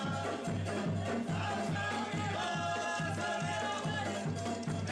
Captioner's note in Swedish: Applåder